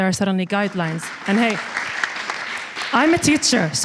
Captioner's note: audience applauds